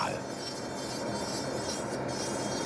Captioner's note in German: Schleifgeräusche